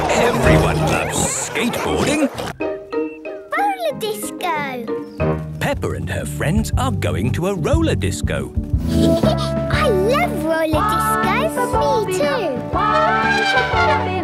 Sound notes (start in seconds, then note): 8.8 Peppa laughing; 12.8 trumpeting